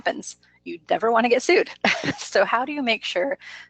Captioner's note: laughs